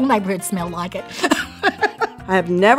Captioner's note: laughs